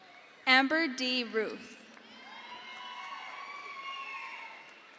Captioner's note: crowd cheers